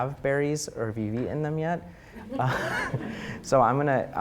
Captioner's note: audience chuckling